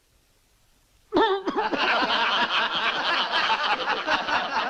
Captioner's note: coughs; laughing